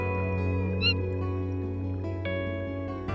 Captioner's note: manatee squeaks